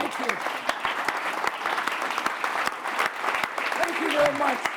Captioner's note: audience applauds